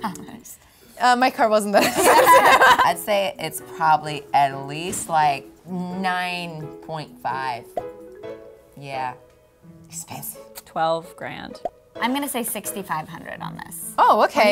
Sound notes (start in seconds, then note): 2.0 laughs